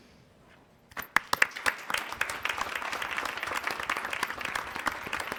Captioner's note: attendees applauding